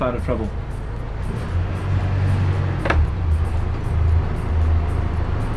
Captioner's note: engine revving